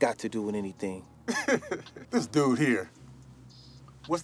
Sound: chuckles

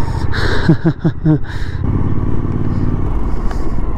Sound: laughs

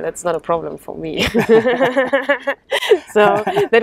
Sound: both laugh

